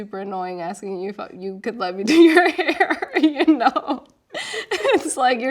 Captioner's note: laughing